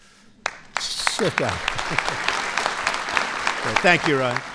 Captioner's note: applause